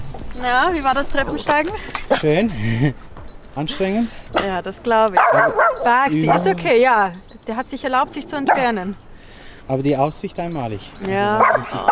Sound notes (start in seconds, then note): 5.1 Baxy barks excitedly